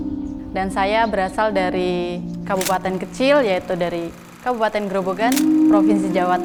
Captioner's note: soft music; camera clicks